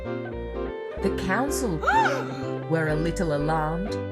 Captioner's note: warehouse people gasp